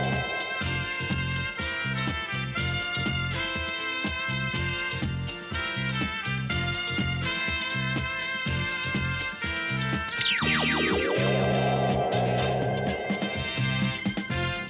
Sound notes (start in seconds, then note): none